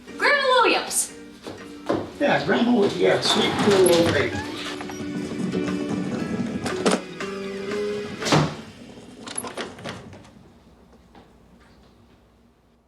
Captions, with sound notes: - Grandma Williams. - Yeah, grandma Williams, sweet little old lady. (door creaking) (wheels rattling) (door slamming)